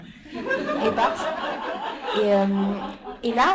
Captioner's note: laughter